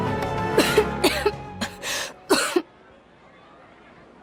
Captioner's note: cough